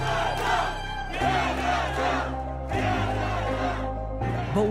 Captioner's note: crowd chanting